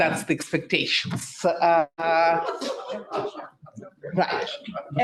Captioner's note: audience laughing